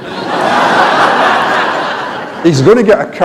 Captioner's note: laughter